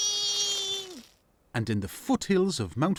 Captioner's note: Dave shrills